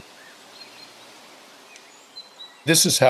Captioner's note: birds chirping